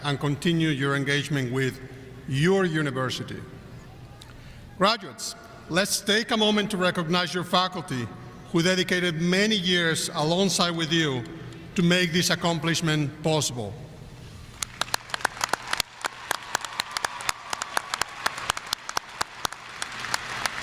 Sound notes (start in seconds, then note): 14.6 audience applauding